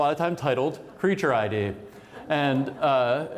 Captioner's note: laughter